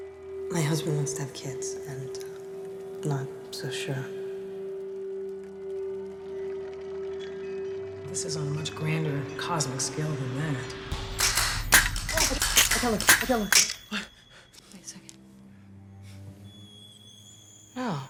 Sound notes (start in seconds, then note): 5.5 mysterious music; 11.0 traps clapping; 11.2 Robin exclaiming; 14.5 gasps; 16.2 suspenseful violin music